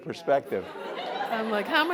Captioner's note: audience laughing